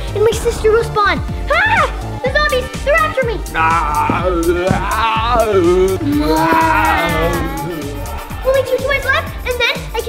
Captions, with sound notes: and my sister will spawn. [screaming] The zombies! They're after me! [growling] Only two toys left, and then,